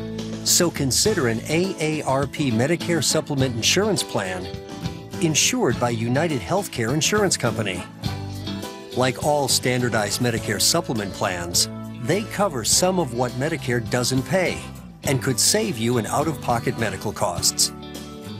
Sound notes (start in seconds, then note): none